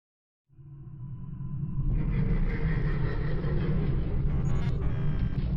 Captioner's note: deep eerie rumbles echo